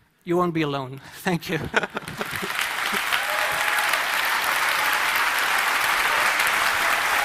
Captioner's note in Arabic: تصفيق من الجمهور